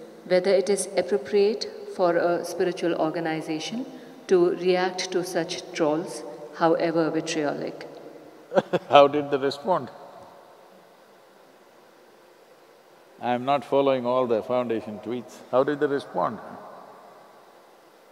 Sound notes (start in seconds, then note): 8.5 laughs